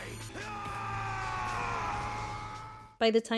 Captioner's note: screaming